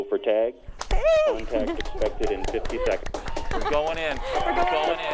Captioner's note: applauding